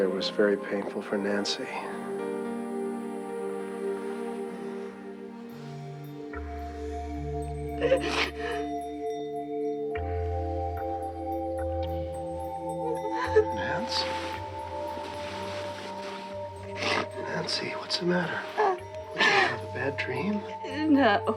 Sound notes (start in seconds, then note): 2.2 dramatic music; 7.8 Nancy sobbing; 9.6 dramatic music; 15.5 Nancy sobbing; 15.5 dramatic music